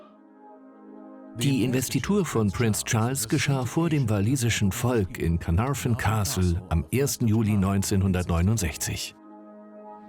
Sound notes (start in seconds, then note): 0.6 voiceover